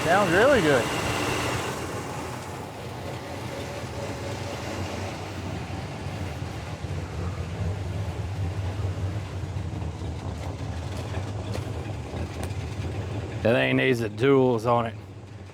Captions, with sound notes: Sounds really good. (Metal Clanking) That ain't needs the tools on it.